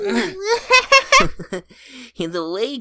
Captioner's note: the bros giggling